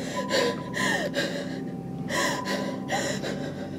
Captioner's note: pants